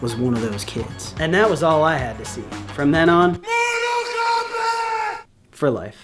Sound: mortal kombat scream

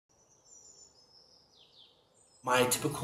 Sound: birds chirping

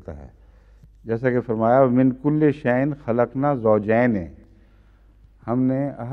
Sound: Arabic

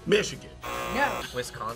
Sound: buzzer; buzzer rings

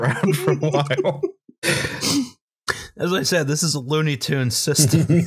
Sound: almost sobbing

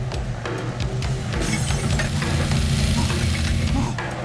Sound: glass shattering

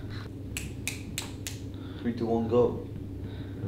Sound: snapping fingers

